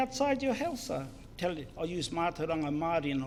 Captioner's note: foreign Language